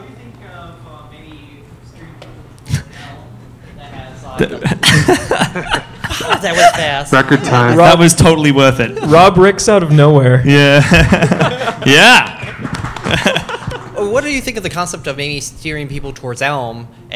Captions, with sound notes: So what do you think of streaming with ELM that has-- (laughter) That was totally worth it. Rob Ricks out of nowhere! Yeah. (laughter) Yeah! (applause) What do you think of the concept of maybe steering people towards ELM,